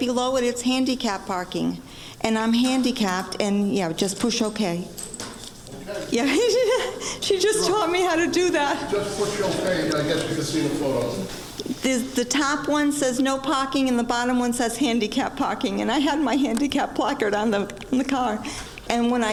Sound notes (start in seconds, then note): 6.2 laughing